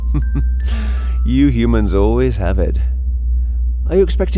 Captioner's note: chuckles